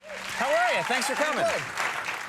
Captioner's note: audience cheering